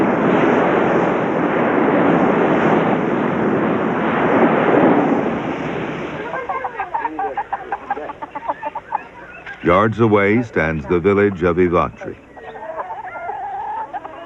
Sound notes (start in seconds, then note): 6.1 Γέλια